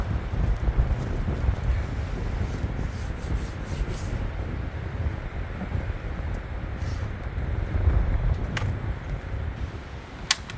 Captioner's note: wind howling